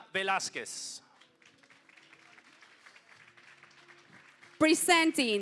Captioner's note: applause